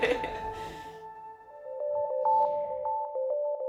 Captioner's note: ríe